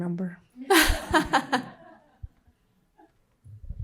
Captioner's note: laughter